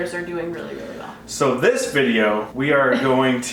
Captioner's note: laughing